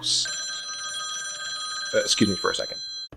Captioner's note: phone rings